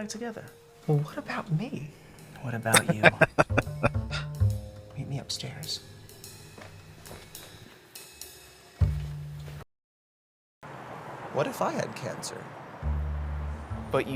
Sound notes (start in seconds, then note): 2.7 laughing